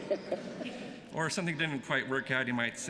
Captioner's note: laughter